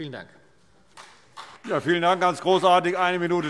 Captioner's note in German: Beifall CDU und BÜNDNIS 90/DIE GRÜNEN